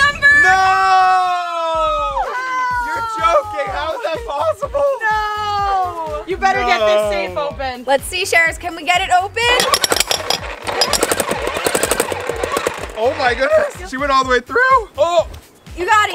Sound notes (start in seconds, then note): 1.7 screams; 9.5 jackhammer